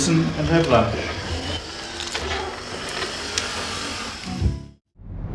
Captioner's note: wheelchair motor running